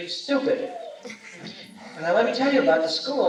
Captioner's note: laughter